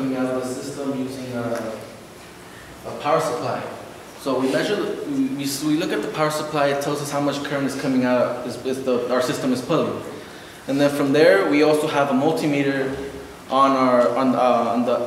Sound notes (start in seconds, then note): none